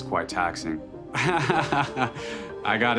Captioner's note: laughs